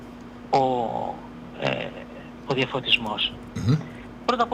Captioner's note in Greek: χαχανίζει